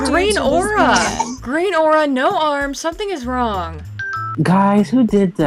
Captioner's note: doorbell